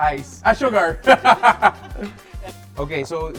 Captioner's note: laughs